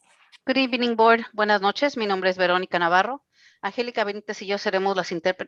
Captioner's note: speaking in foreign language